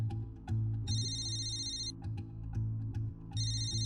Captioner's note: phone rings